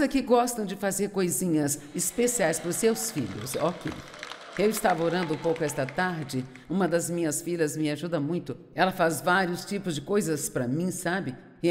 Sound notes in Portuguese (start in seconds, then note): 1.9 audiência aplaude